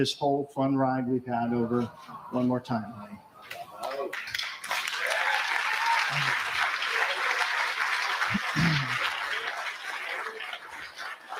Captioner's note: applause